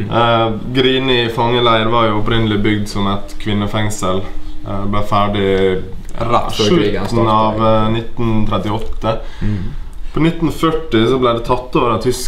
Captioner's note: pow